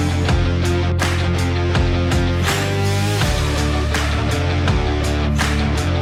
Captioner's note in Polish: Aplauz